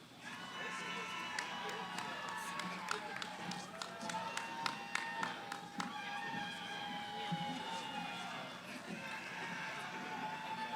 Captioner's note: cheering